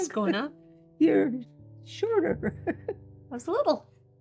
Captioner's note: laughs